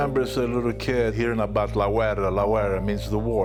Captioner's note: speaking foreign language